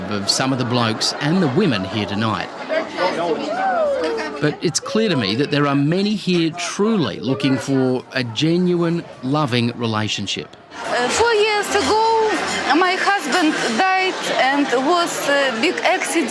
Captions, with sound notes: of some of the blokes and the women here tonight. (PEOPLE CHATTER, CHEER) But it's clear to me that there are many here truly looking for a genuine, loving relationship. Four years ago, my husband died, and it was a big accident,